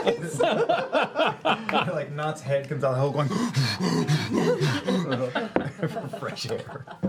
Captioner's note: rapid gasping